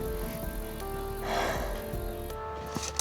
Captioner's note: sighs